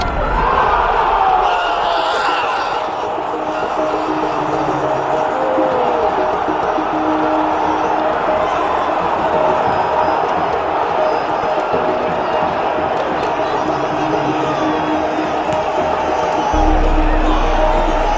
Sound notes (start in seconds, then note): 3.8 fans cheering